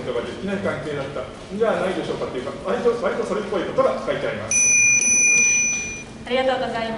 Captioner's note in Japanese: 質問終了のベルの音